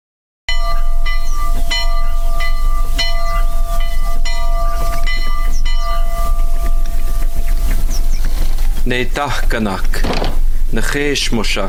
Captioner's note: audio of bells and sermon